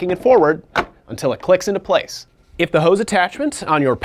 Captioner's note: tank clicks